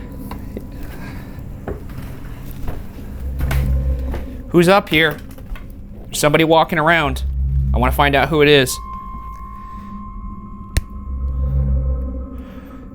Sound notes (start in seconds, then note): 0.1 footsteps continue ascending; 8.9 eerie pensive music continues